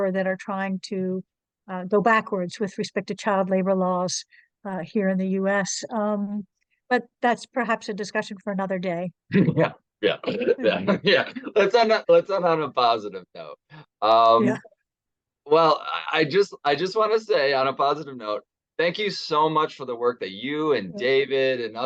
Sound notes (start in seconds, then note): 10.1 chuckles